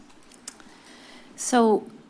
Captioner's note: clicks tongue